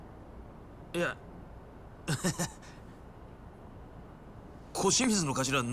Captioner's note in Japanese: 笑い